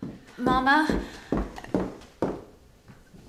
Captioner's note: footsteps